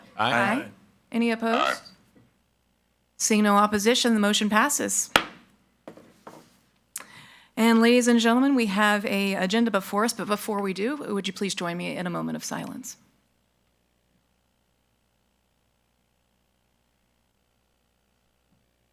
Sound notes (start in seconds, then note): 5.1 gavel thuds